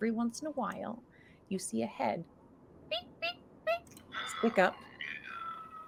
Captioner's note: bird squills faintly